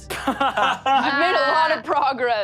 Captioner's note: all laugh